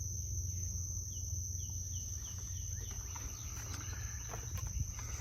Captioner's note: birds chirping; footsteps tapping